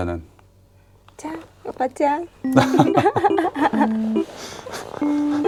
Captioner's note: laughs